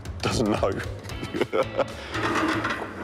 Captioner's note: laughs